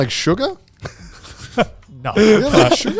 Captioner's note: laughs